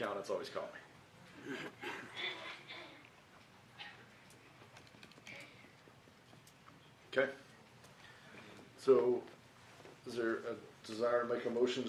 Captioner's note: laughter